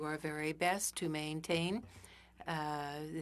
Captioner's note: speaking French